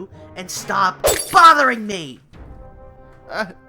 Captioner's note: vase shattering